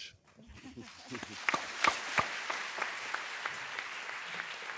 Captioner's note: audience applauding